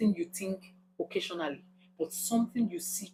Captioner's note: paause